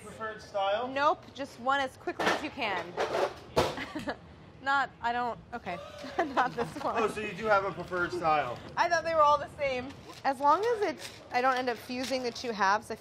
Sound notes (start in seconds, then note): 2.9 laughs